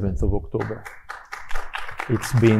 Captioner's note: audience applauding